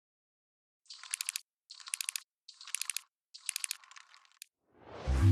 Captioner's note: rapid clicking